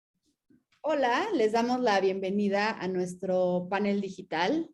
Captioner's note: speaking in Spanish